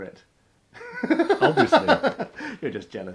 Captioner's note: laughs